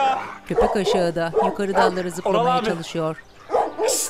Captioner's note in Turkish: Köpek havlama sesi